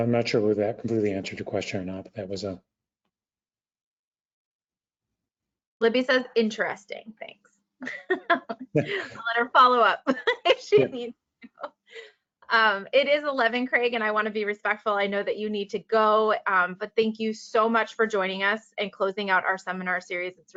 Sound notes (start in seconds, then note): 7.9 laughs; 11.0 laughs again